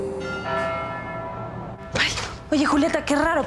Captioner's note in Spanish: Campanadas